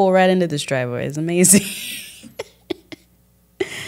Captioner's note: laughs